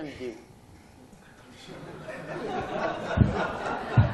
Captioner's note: laughter